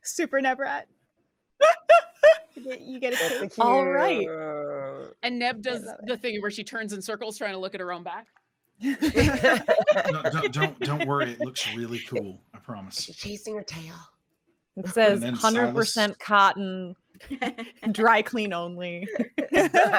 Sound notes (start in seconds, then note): 1.6 laughs; 8.8 all laughing